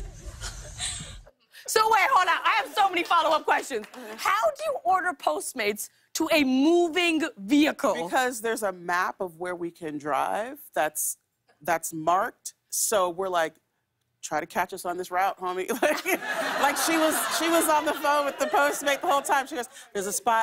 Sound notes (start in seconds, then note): 15.7 laughter